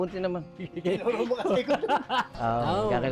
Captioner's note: laughs